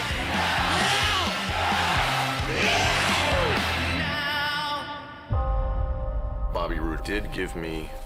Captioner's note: fans chanting